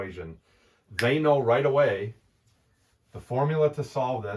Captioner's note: fingers snapping